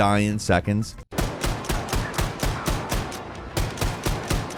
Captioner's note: weapon firing